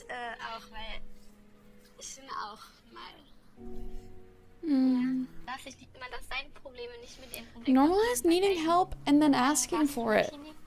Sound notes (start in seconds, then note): 5.6 speaking in German; 10.4 speaking in German